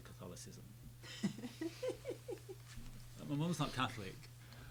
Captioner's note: laughing